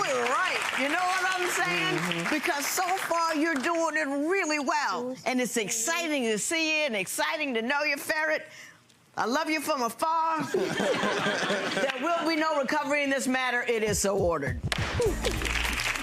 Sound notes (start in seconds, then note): 0.0 audience clapping; 10.5 audience laughing; 15.1 gavel banging